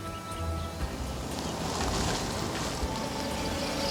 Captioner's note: engine running